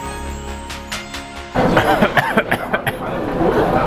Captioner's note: coughing